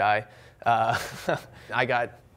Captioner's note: chuckles